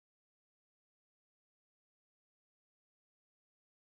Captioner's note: none